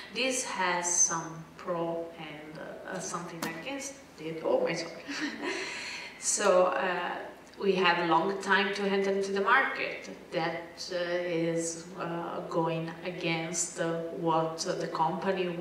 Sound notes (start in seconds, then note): 4.9 laugh